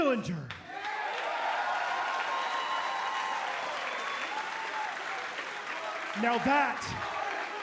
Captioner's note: cheers and applause